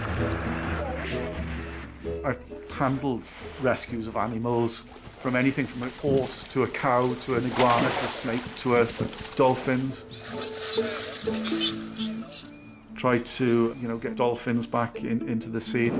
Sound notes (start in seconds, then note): 0.2 pensive music; 0.2 water trickles; 9.8 dolphin chittering